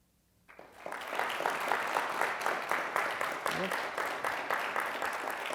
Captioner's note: applause